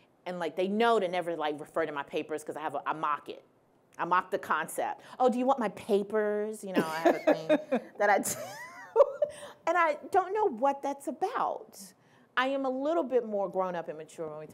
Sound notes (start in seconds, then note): 6.8 laughing